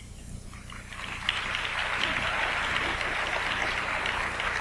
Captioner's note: audience applauds